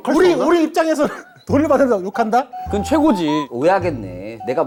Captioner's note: he cracked himself up